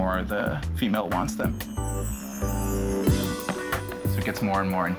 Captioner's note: buzzing